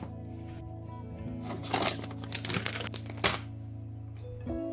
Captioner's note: fridge opens; plastic bag crinkles